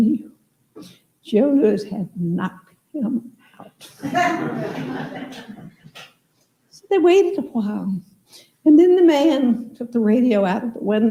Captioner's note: laughter